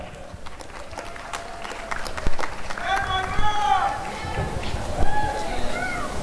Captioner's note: applause and cheering